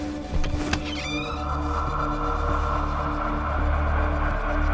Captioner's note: James whistles; door opens